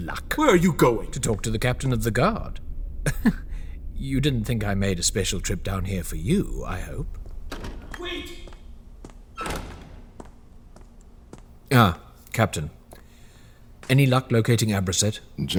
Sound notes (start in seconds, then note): 9.1 metal door swings shut